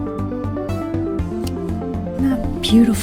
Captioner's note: scissor cuts